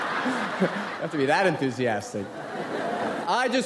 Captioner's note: audience laughs